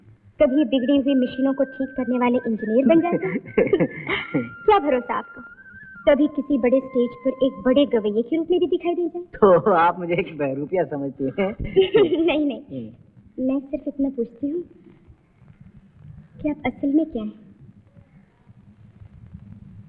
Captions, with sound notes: Sometimes you become an engineer who repairs the machine. (Laughs) Who knows may be some day you must be standing.. ..on the stage as a great singer? You feel that I am a dissembler. (Laughs) No, actually I wanted to know that what you do?